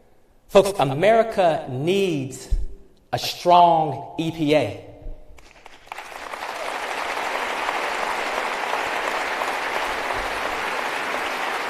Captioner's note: applause